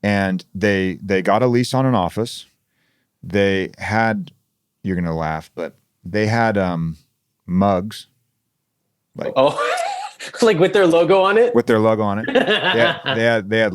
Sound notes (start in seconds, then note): 9.3 laughs